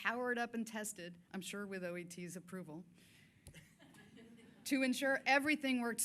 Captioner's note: scattered chuckling